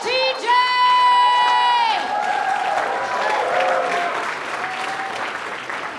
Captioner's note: audience cheers and applauds